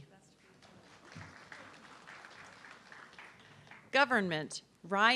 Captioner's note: audience clapping